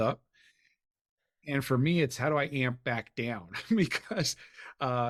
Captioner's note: chuckles